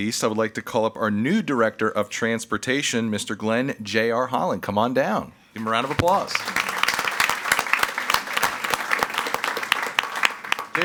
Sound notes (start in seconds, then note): 5.6 all applauding